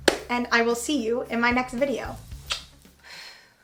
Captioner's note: blows a kiss